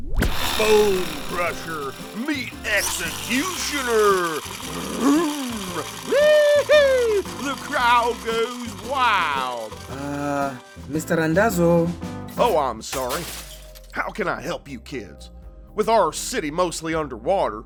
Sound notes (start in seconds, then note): 12.9 cars crash